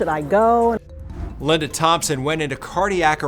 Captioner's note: graphics whooshing